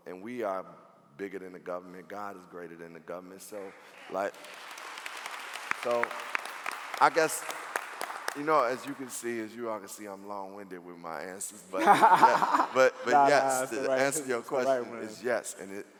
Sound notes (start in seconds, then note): 3.6 clapping; 11.8 laughing